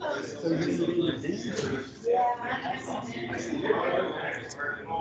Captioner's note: attendees chatting